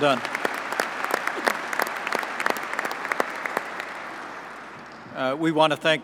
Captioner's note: applause